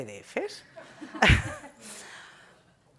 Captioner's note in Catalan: riures